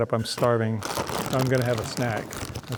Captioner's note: bag crackling